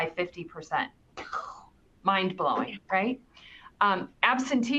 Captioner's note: mimics explosion